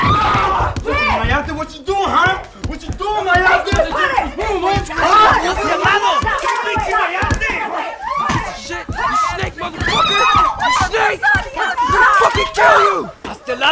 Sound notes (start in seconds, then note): 5.6 yelling